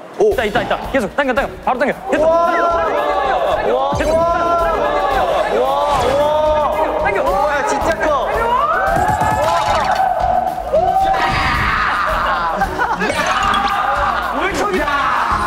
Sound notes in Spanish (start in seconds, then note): 10.7 Grito de victoria